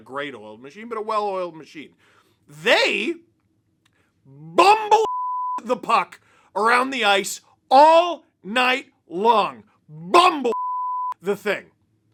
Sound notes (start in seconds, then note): 4.5 beep